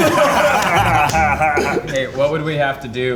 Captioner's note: guys laughing